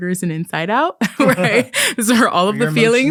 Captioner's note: both laughing